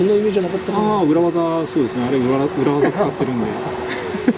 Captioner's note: laughs